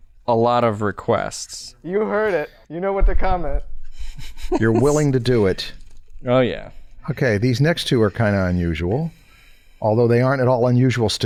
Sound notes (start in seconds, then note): 4.1 chuckles